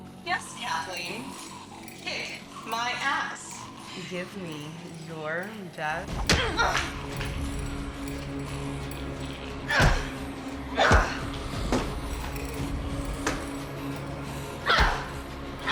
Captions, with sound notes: - Yes, Kathleen, kick my ass. Give me your best- (Betty grunting) (dramatic music)